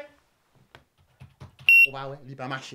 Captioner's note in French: bip